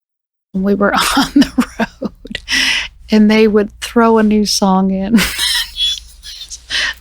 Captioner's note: laughing; cracking up